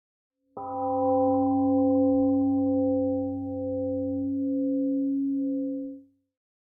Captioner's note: temple gong rings and fades